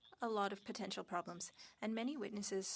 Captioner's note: speaking French